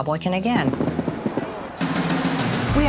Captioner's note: fireworks booming